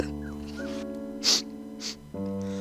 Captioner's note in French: pleure; Snif